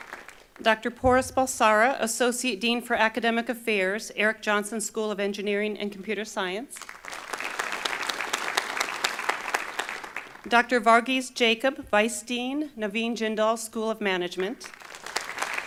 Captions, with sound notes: Dr. Poras Balsara, Associate Dean for Academic Affairs, Erik Jonsson School of Engineering and Computer Science. (Applause) Dr. Varghese Jacob, Vice Dean, Naveen Jindal School of Management.